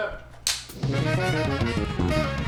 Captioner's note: clapperboard claps; lively music